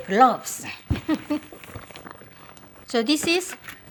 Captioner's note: laughs